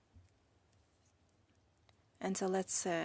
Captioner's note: speaking French